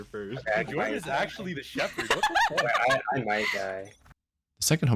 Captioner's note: laughter